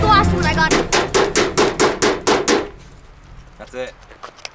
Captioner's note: furious banging on table